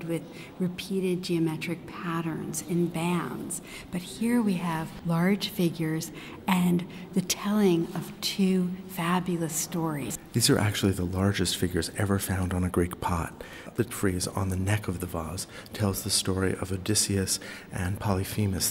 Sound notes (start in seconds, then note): 10.2 voiceover